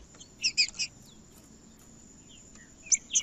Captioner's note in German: trinca ferro cantando